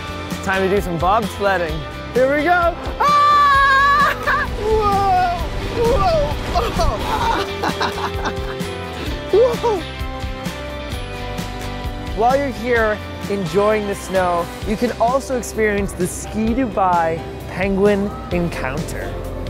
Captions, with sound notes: Time to do some bobsledding. Here we go! Ahh, whoa, whoa, whoa (laughs). While you're here enjoying the snow, you can also experience the Ski Dubai Penguin Encounter.